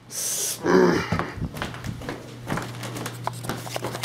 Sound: grumbling

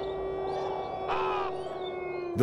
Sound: cawing

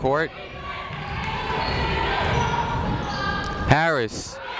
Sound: people shouting in the crowd

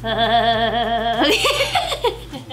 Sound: laughs

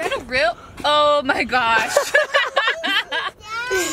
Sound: laughs

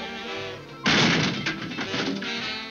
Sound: crashes

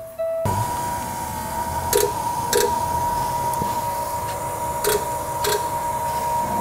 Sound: whirring/clicking noises

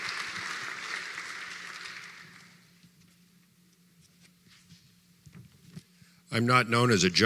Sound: applause

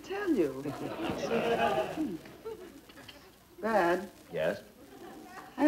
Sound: audience laughing

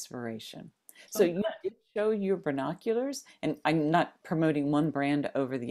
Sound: audio skips

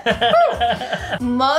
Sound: laughs

